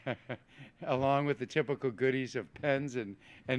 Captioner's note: laughs